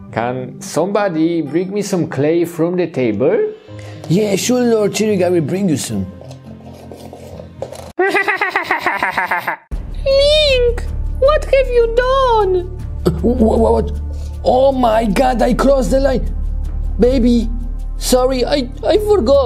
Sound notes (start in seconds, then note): 8.0 Granny cackling